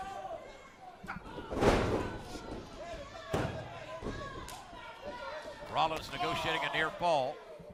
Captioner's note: crowd chatter